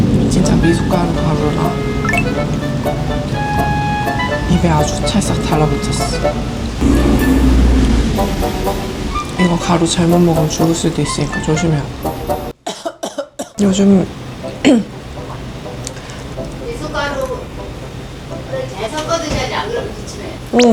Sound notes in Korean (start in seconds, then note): 12.6 기침